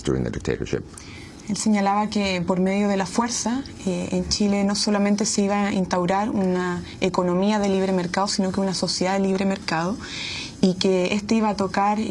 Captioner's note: answering in Spanish